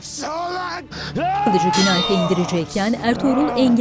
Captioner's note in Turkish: Kılıç sesi